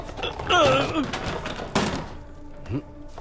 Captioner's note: Clattering